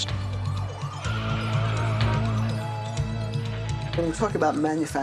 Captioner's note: dramatic music; sirens wailing